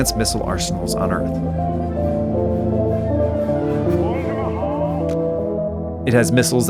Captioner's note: ambient music; megaphone echoing